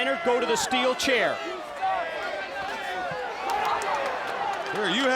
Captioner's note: crowd yelling